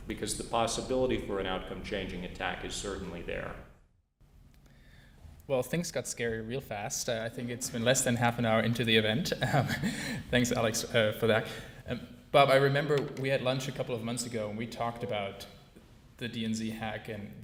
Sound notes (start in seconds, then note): 9.4 laugh